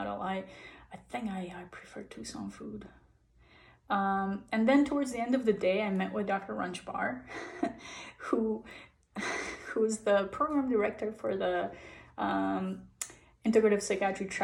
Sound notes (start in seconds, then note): 7.3 chuckles